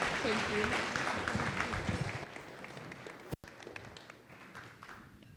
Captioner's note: audience applauding